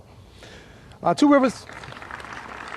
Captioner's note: applause